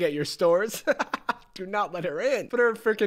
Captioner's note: laughs